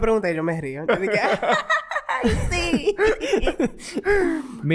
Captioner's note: laughs